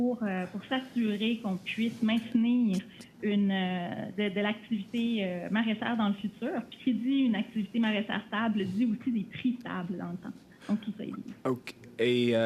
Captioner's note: speaking French